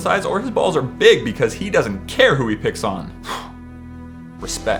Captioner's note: sigh